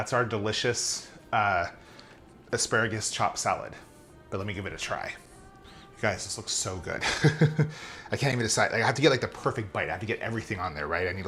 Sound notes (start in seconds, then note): 7.0 laughing